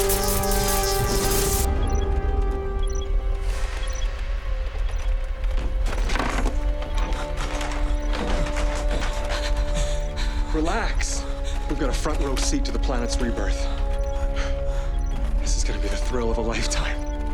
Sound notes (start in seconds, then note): 1.5 rattling